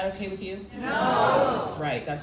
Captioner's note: crowd